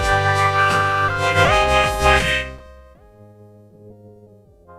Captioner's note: whistling